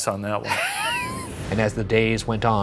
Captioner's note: laughs